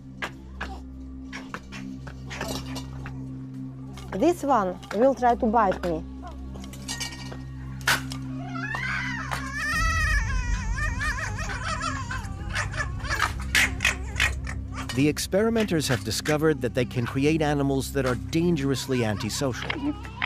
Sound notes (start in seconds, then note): 7.8 snaps; 9.7 screeching; 12.4 yapping